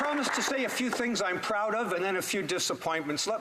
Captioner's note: some Applause